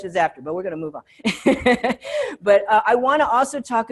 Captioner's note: laughs